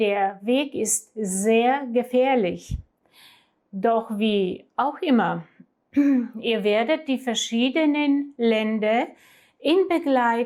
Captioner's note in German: räuspern